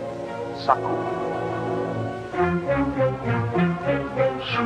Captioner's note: tribal language spoken audio